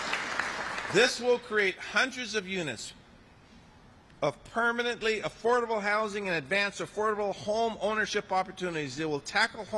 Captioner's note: applause